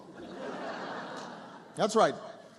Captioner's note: laughter